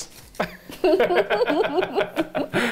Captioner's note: both laughing